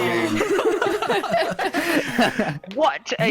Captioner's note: continued giggles